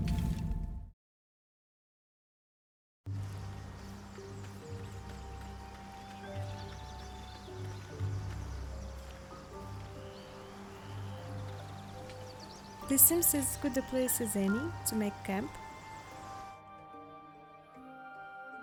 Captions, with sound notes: [birds chirping, music] This seems as good a place as any to make camp.